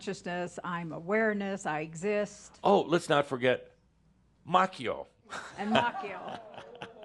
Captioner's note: chuckles and audience says “Ohh!”